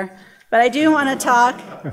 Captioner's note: audience laughter